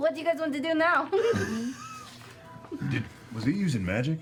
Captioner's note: laughter